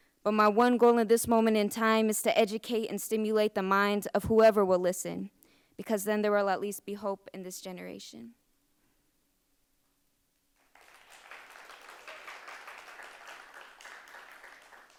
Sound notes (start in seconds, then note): 10.6 audience applauds